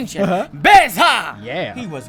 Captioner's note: mimics m'baku chant